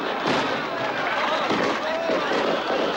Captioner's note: fireworks